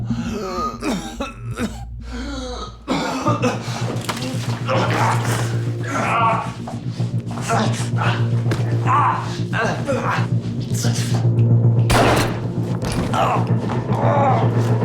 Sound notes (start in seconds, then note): 0.0 Rico continues coughing; 5.1 Rico and Terry groaning; 5.1 tense music; 11.9 gunshot echoing; 12.8 Rico and Terry groaning; 14.2 tense music